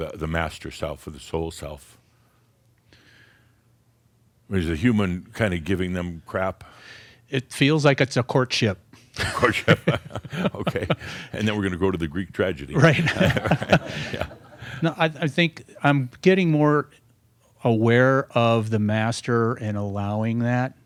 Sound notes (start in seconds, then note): 10.1 they chuckle; 12.8 some chuckles